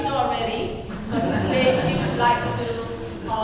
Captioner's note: laughter